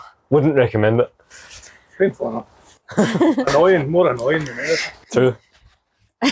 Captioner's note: laughter